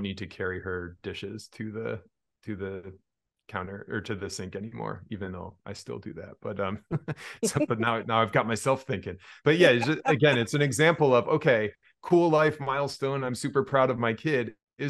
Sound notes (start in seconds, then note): 6.5 chuckles